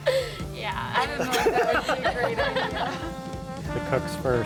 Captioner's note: laughter